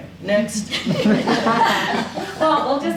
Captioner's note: audience laughing